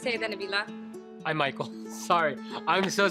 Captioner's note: laughs